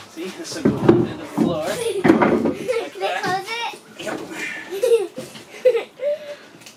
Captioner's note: giggles